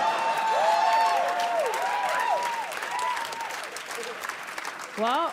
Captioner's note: audience cheers and claps